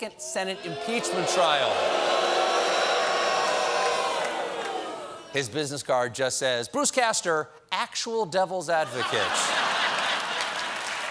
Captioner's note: audience booing